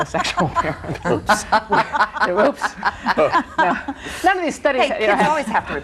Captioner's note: laughter